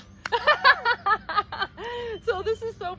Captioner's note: laughing